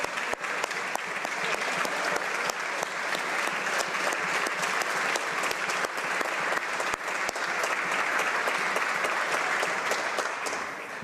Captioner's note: applause